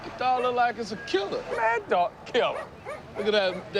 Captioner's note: scoffs